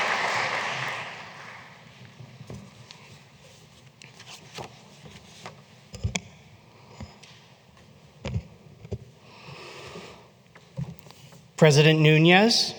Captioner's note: applause